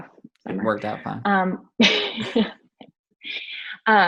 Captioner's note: both laugh